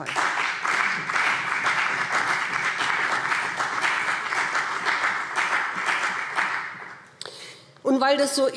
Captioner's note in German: Beifall BÜNDNIS 90/DIE GRÜNEN und CDU